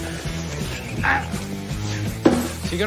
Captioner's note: grunts